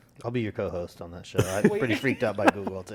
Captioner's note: laugh